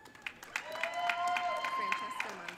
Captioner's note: audience cheering